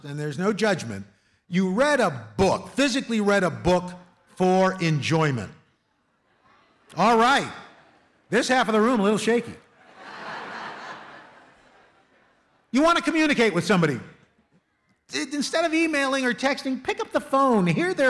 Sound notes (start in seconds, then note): 9.7 laughter